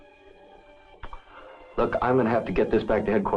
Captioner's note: inhales